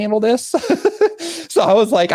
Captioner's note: laughing